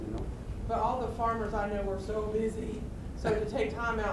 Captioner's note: voiceover; voiceover